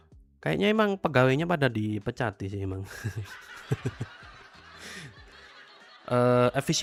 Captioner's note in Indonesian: tertawa